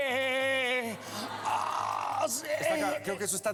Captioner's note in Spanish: risas